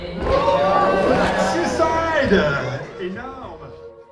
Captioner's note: crowd cheering